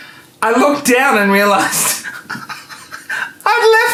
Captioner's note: laughing